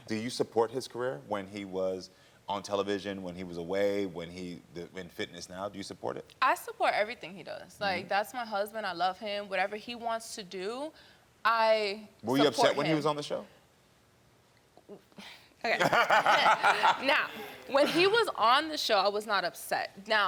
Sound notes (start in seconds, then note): 15.7 Karamo laughs